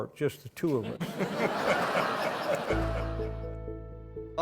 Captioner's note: laughter